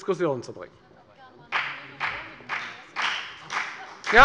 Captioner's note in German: Beifall bei der FDP - Zuruf der Ministerin Priska Hinz